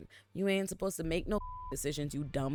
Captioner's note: beep